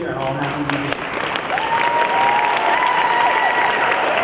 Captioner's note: cheering